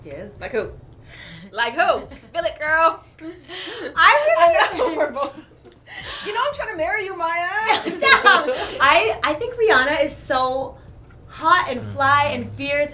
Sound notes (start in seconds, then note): 3.1 giggling; 7.6 laughter